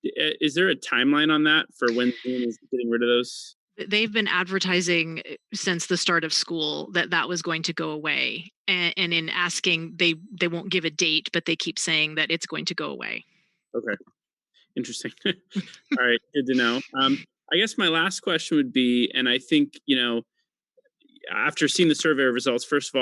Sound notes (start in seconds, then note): 14.8 laughs